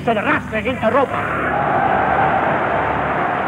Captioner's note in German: Jubel